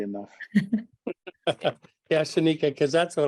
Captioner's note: laugh